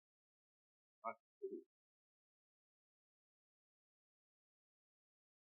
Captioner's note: none